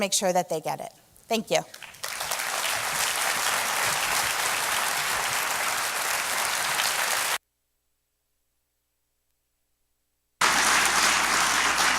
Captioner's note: applause